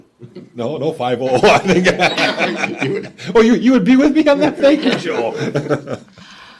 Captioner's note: laughter